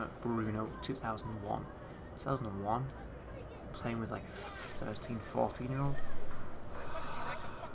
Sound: sigh

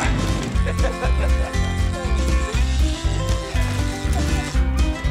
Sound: fisherman laughs

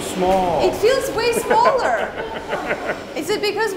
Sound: group laughing

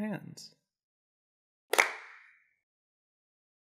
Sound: clap

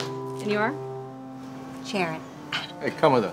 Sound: grunting in pain

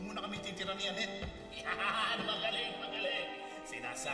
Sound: laughs

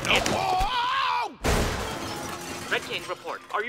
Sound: crashing

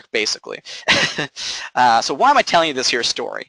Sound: laughing

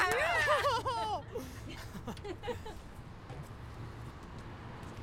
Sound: laugh

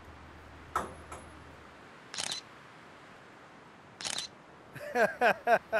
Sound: thudding; camera shutter clicking; laughing

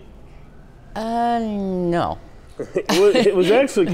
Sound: laughs

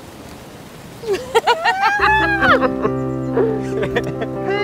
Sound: laughter

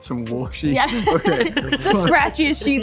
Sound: laughing

